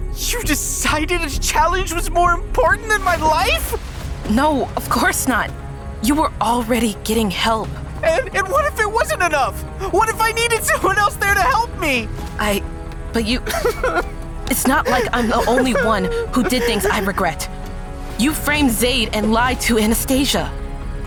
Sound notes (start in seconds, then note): 14.4 Logan sobbing; 14.4 sobbing